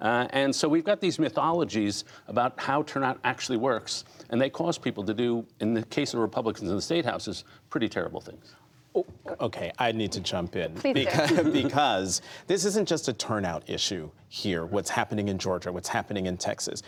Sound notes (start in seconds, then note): 10.8 laughter